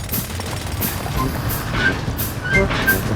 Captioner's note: drilling